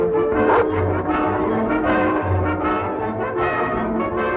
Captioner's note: barking